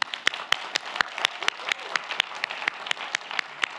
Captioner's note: audience applauds